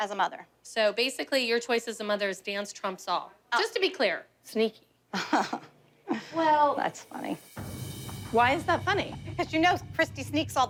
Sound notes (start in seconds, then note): 5.1 laughs